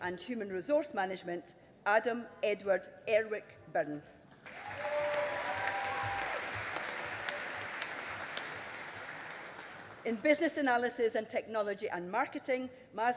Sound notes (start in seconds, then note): 4.4 audience applauding